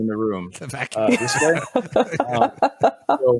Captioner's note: laughter